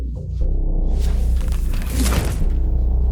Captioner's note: whooshing; smacking